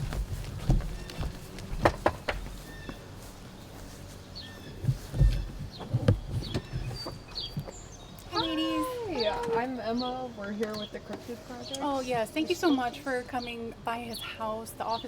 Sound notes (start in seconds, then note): 1.8 golpeteo de manos; 6.6 clic de puerta